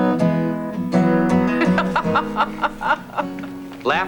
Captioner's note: laughing